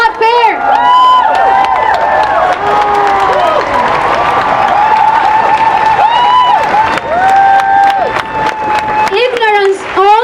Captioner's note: cheering and applause